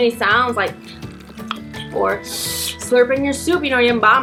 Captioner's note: chewing noises